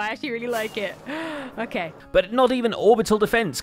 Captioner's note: gasps